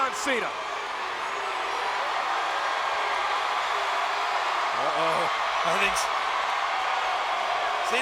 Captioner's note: applause